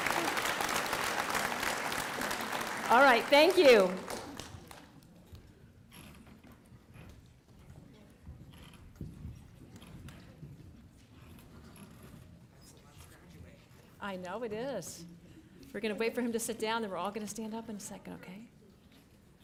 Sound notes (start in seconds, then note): 0.0 applause